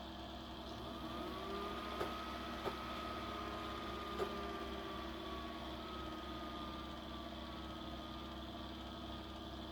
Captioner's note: video card starts making noise